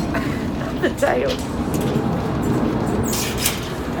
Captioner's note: laughs